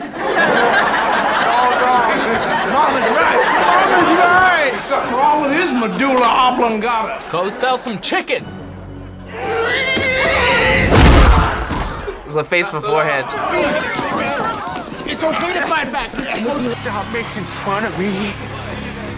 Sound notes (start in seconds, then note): 0.3 class laughs; 9.5 yells